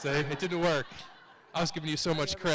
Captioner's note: audience laughs